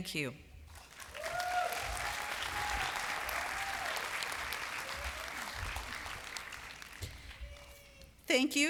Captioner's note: applause